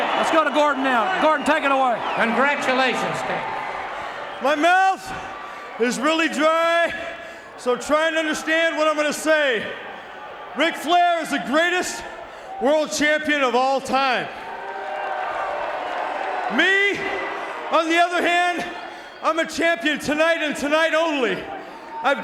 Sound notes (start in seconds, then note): 14.6 audience cheering